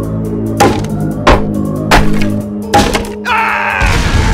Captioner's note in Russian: стук по древесине; взрыв